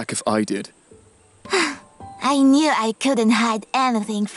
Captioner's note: sighs